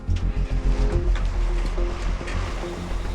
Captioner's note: engine starts